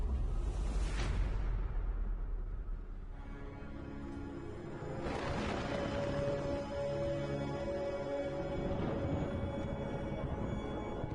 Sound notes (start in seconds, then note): 3.1 ominous music playing; 4.7 rain pattering; 5.0 loud thunder